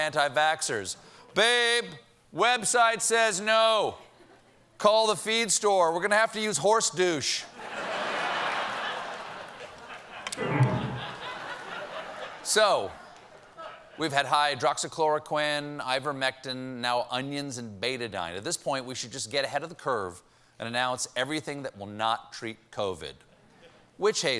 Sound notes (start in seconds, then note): 5.3 laughter; 5.3 piano riff